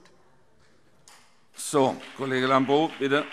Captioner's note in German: Beifall CDU und BÜNDNIS 90/DIE GRÜNEN